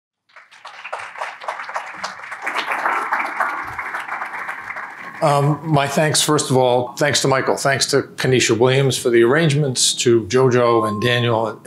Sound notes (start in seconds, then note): 1.8 applause